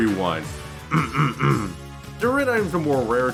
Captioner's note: clear throat 3 times